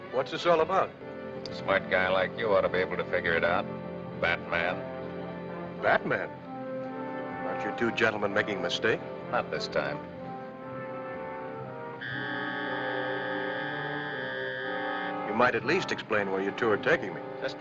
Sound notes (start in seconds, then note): 11.9 alarm buzzing